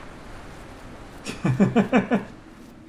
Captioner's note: chuckles